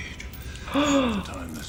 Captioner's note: person gasps